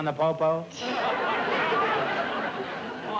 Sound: laughter

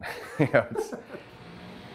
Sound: laughter

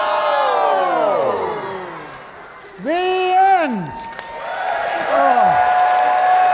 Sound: audience clapping

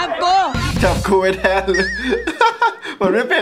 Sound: laughs

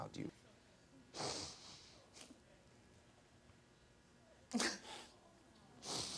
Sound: sniffles and sobs

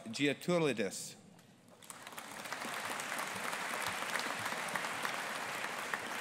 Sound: audience applauding

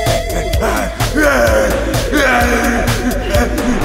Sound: John groans

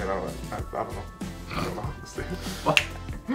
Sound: snorts

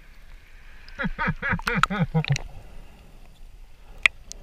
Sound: laughs

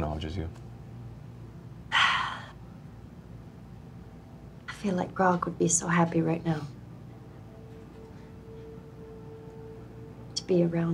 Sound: sighs

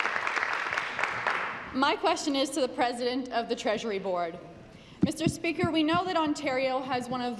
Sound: applause

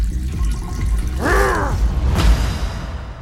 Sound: growls

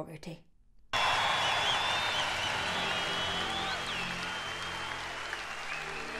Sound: audience applauding and cheering

